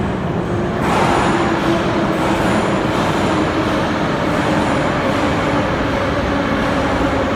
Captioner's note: arrival of train at the station